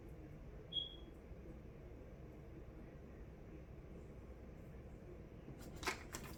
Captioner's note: beeping